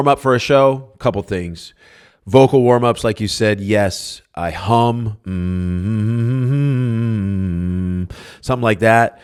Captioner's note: hums a vocal warm-up